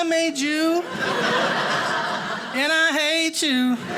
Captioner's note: audience laughing